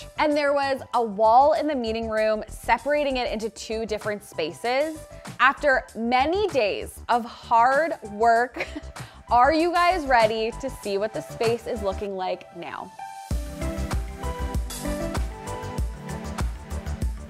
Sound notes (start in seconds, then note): 8.6 chuckles; 13.2 upbeat music